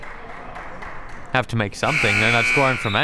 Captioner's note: buzzer ringing